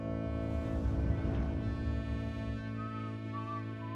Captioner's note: Tom whistling